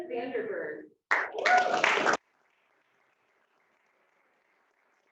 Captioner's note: applause